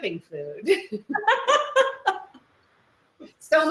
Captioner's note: both laugh